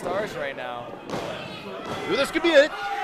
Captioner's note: floor banging